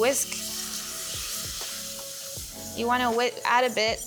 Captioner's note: milk sizzling